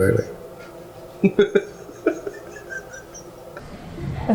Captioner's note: laughing